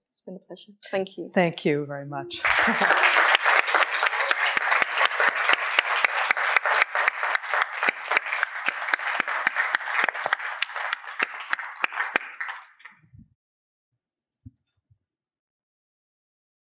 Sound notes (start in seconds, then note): 2.4 applause